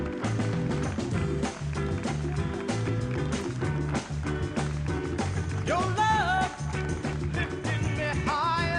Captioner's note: applause